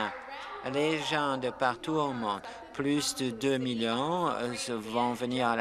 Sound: some applause

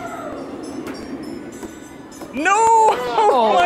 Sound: ball thudding

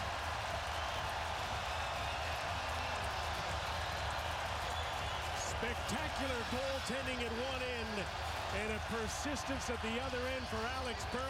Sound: cheers and applause

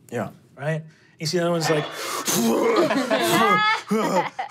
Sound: grunts

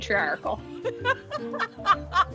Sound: laughs

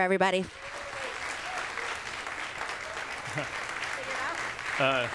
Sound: audience claps

